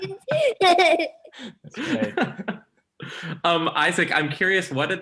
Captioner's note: everyone laughs